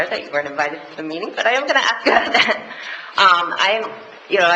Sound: laughs

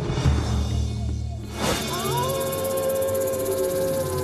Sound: wolves howling

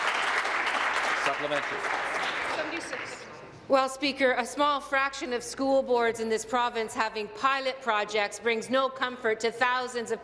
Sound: applause

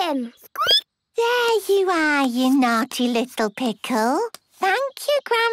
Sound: squeaking

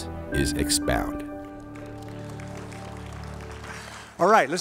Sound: clapping

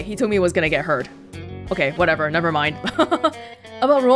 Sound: chuckles

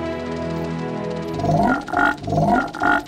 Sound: croaking

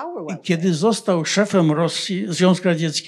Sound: foreign language

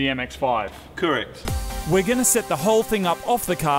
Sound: voice over

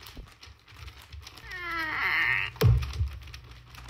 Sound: tree falls

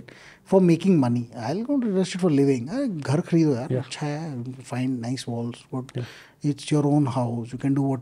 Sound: speaks in Hindi

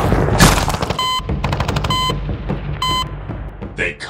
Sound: beeping Sounds

